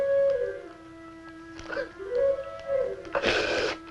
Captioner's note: sobbing